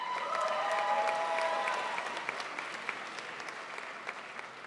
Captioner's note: crowd applauds